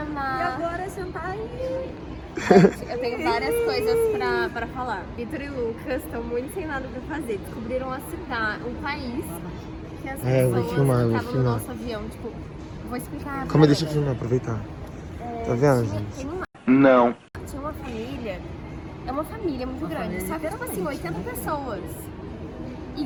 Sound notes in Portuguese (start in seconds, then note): 15.5 falando ao fundo